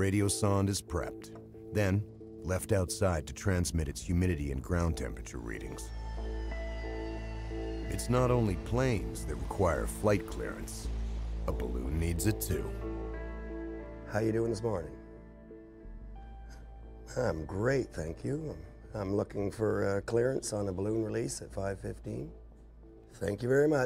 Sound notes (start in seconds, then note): 4.0 voiceover